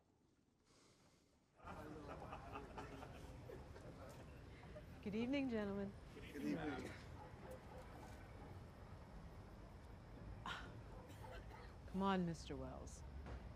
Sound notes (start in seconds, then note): 1.6 laughing